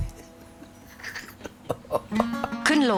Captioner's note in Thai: เสียงหัวเราะ